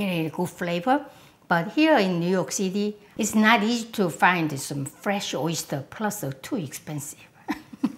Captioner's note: laughs